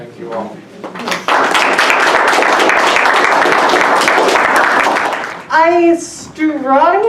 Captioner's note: applause